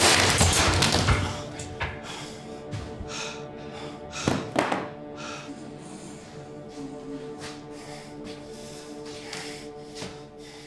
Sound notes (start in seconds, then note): 0.0 Koch clanking; 3.1 Brown huffing; 4.9 Koch wheezing